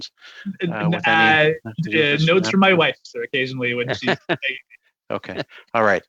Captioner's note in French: voix de l'interprète